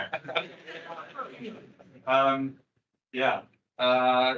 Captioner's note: attendees laughing